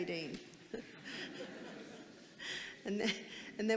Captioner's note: audience laughing